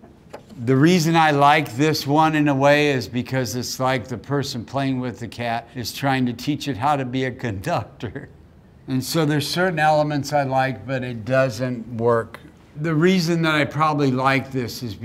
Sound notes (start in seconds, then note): 8.0 laughs